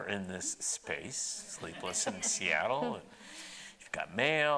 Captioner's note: audience laughing